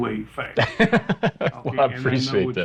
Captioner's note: person laughing